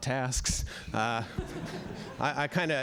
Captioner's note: laughter